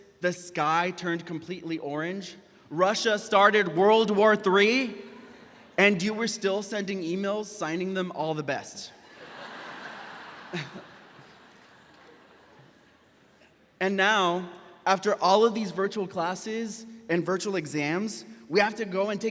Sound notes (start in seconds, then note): 9.0 graduates laughing; 10.5 chuckles